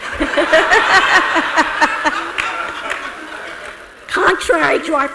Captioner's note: audience laughs